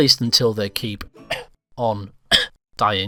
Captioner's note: cough